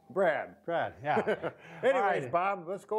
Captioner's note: both laugh